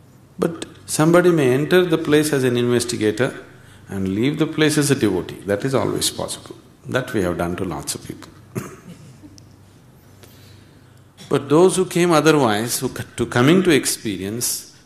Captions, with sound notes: But somebody may enter the place as an investigator, and leave the place as a devotee – that is always possible. That we have done to lots of people. [Laughs] But those who came otherwise, to come in to experience,